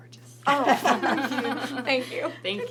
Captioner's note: everyone laughs